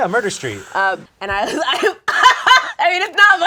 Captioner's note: laughs